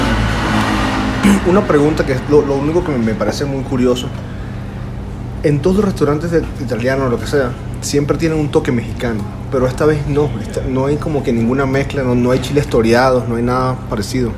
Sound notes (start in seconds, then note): 9.6 laugh